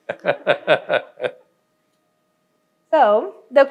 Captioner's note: laughing